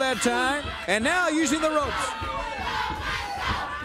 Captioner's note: crowd cheering